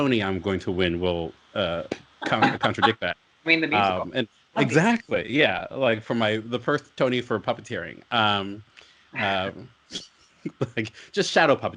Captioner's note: laughs